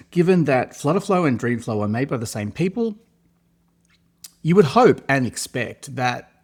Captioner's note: clicks tongue